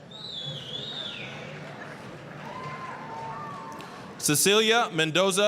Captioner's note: applause, cheering